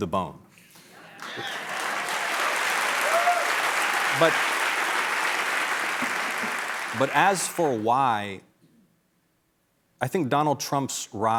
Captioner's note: cheers and applause